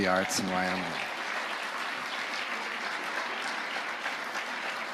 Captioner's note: audience applauding